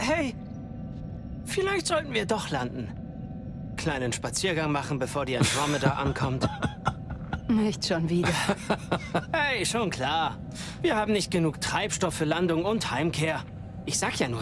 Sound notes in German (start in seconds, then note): 5.4 gelächter